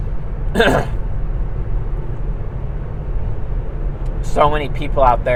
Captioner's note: clears throat